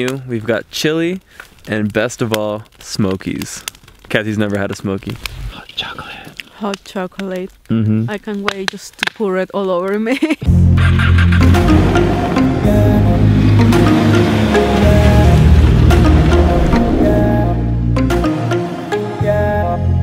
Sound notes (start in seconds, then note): 10.5 dramatic techno music; 10.7 laughing; 10.8 snowmobile engine starting